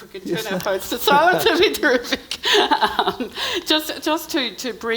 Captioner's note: laughs